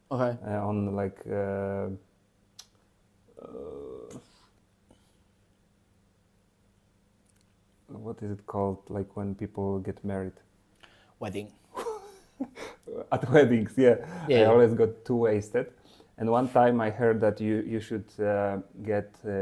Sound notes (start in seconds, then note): 11.7 laughs